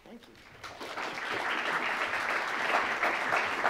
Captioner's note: applause